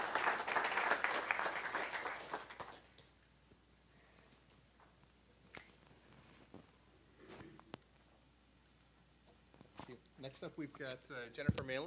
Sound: applause

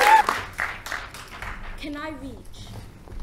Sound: applause

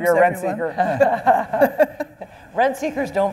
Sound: panel laughing

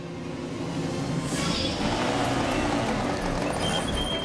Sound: motorcycle approaching

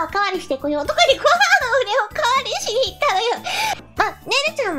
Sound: laughing

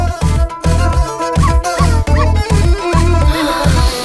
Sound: dog barking

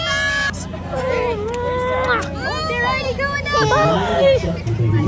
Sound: muah

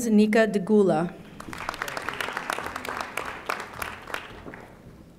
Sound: audience applauding

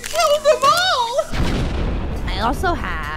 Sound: boom

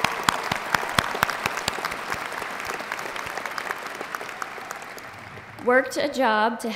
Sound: applause

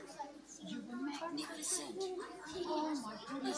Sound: kids chattering

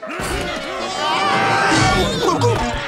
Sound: screaming

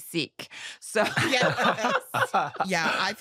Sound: all laughing

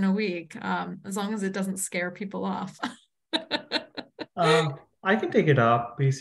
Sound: laughs

